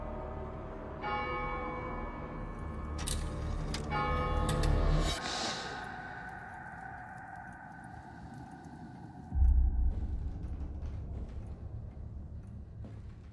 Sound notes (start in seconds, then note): 4.7 bell continues tolling